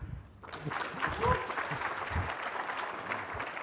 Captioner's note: applause